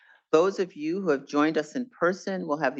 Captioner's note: none